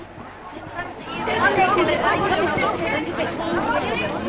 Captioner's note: excited chatter